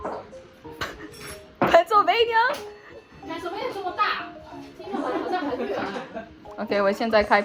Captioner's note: adults laughing